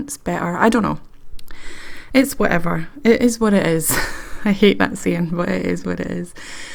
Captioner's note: laughs